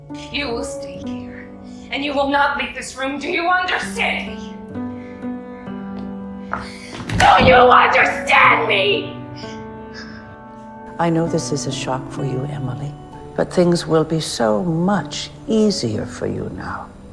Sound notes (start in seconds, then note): 0.5 voiceover; 7.4 shouting; 11.2 voiceover